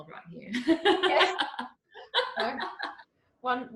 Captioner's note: both laughing